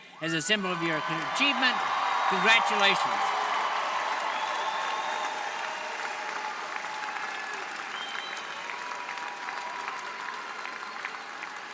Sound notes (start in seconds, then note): 3.5 audience cheering